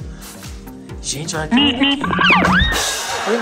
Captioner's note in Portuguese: som de buzina